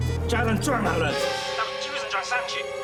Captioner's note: speaks foreign language